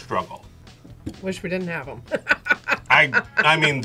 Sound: laughs

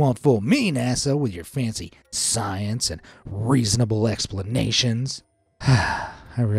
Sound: sighs

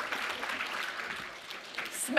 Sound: applause

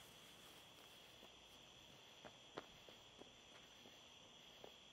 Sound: footsteps scrape

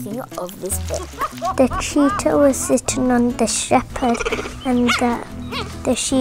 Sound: laughing

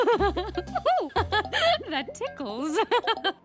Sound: giggling

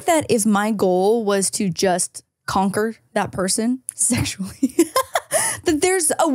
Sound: laughs

